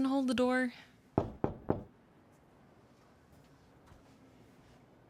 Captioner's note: door knocks